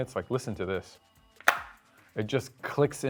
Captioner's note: loud snap